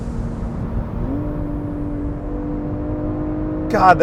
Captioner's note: car sputtering